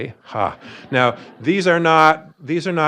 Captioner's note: audience laughing